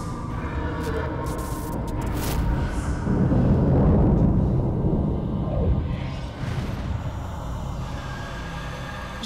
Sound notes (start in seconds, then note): 3.1 thunder crashes; 6.6 eerie music